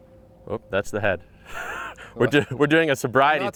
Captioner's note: laughs